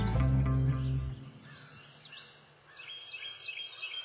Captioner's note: birds chirping